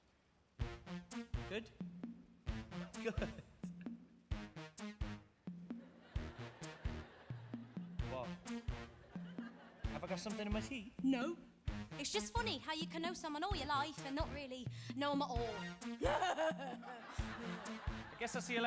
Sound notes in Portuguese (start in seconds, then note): 5.8 audience laughing; 16.0 laughs; 16.0 audience laughing